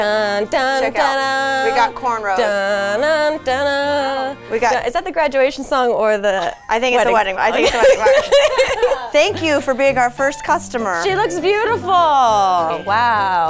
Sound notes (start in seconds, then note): 6.3 laughs